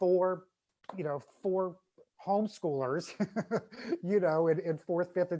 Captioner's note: laughs